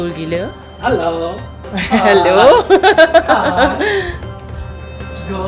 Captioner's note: laugh